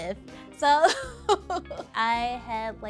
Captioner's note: laughing